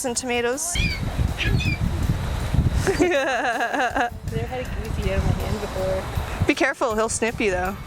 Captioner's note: laugh